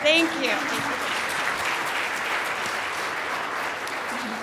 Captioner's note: applause